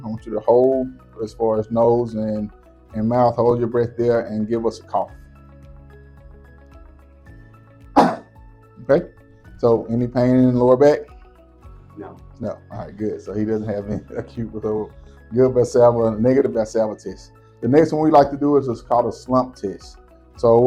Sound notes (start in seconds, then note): 7.9 coughing